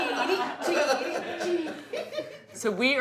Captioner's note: group laughing